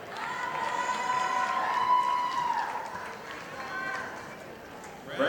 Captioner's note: audience applauding